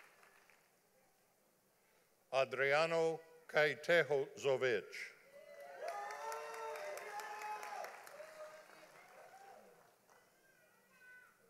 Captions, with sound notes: Adreano Kaitaho Zovich. (audience applauding)